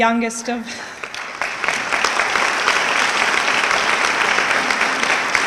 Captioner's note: audience clapping